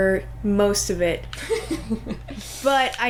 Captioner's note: laughter